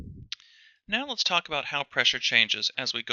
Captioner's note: voiceover